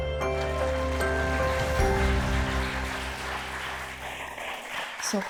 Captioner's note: audience applauds